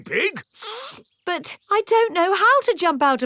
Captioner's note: sniffs